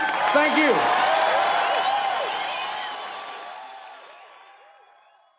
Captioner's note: audience cheers